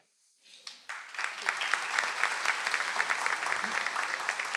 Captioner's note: audience applauds